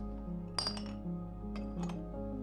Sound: clink

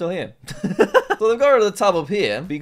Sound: laughs

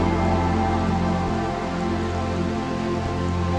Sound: sounds of rain

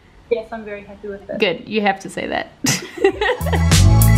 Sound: both laugh; music with heavy beat

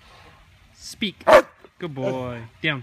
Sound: bark!

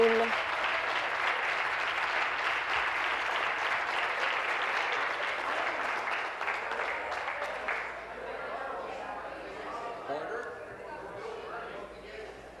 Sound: applause

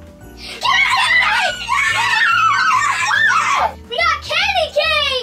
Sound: boys cheering

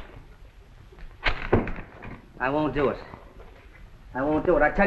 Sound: crinkling paper

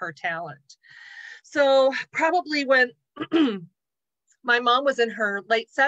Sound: clears throat

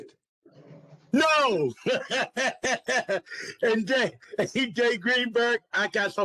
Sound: laughter

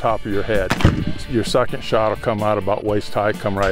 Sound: gunshot

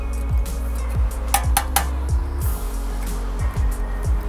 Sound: hammering

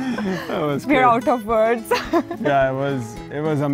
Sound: laughs

